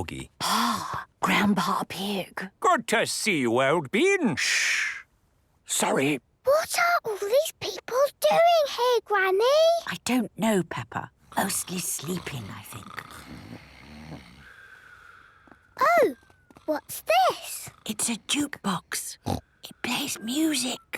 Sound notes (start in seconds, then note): 5.1 whispering; 6.5 quietly; 13.5 snoring; 17.9 whispering